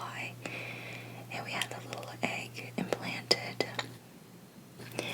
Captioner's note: AC shuts off